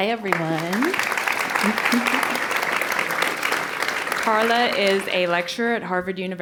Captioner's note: applause